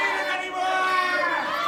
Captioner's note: both scream